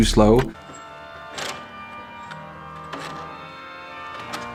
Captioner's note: bells chiming